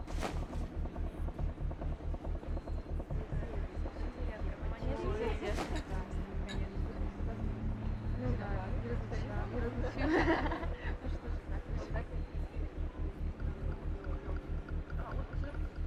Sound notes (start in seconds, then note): 3.4 people chattering; 3.4 suspenseful music continues